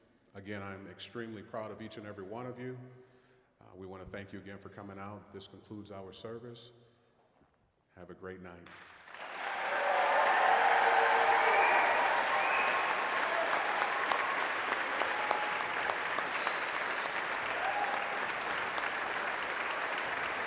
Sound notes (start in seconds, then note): 8.7 applause, cheering; 16.5 applause